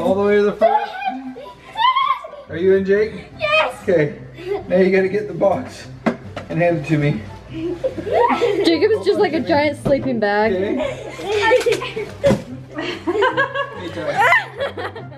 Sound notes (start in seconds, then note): 7.5 boys laugh; 12.6 laughs